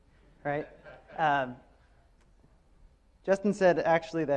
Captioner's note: audience member laughs